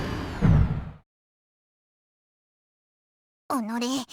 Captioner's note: silence